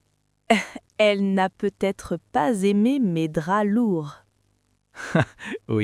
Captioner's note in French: rire